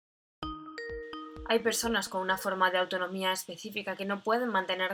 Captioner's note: Sonido llamada de Skype